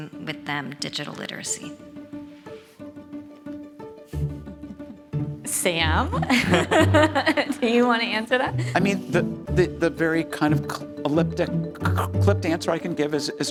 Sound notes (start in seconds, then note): 2.9 upbeat music; 6.1 chuckles